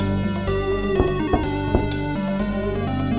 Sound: knock, knock

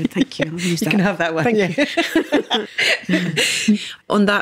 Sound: both laughing

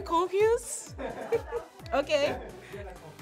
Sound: people in background continues laughing; laughs

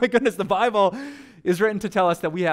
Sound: pastor: Laughter

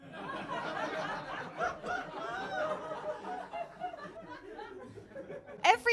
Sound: laughter

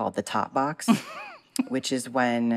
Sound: laughter

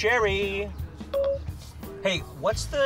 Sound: phone beep

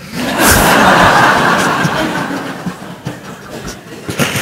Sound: laughter

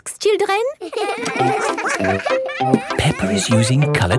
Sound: all giggling

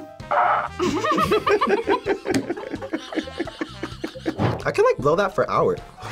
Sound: trumpet music; trumpet sputters; both laugh

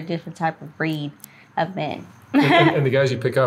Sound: laughing

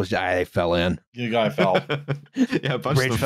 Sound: chuckles

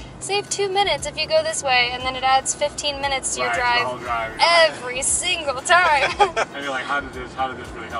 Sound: laughter

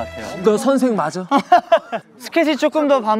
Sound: laughter

